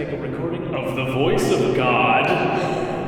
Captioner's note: deep and resonantly; laughs